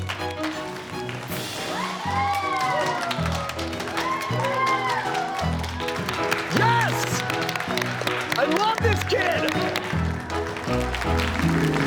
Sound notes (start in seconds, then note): 1.7 uproarious applause; 11.6 more applause